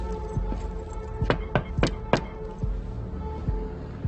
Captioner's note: hand knocking; uneasy music continues